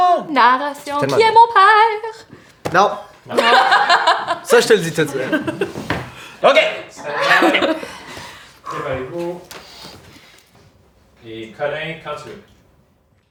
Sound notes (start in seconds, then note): 3.4 Zara laughs